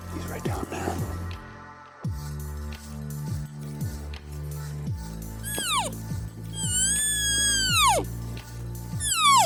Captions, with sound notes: He's right down there. (Cow calling)